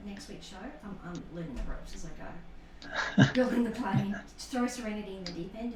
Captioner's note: laughter